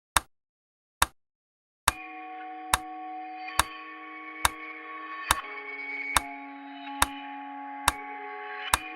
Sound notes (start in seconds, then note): 0.2 clock ticking